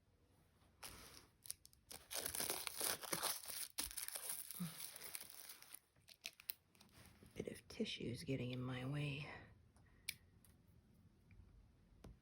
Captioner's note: crinkles